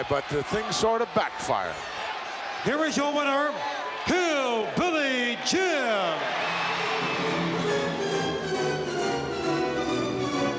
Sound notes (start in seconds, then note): 5.9 audience cheering; 6.8 dramatic music